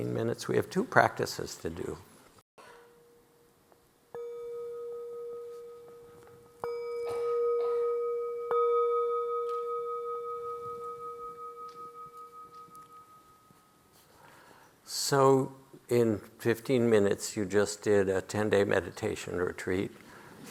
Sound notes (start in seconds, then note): 4.1 bell ringing